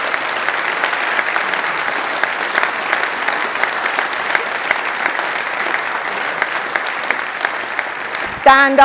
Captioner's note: applause